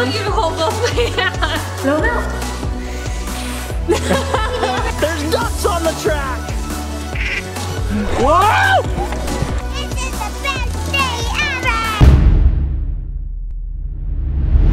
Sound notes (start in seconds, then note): 0.6 laughing; 2.9 puffing air; 3.8 laughing; 7.1 duck quacks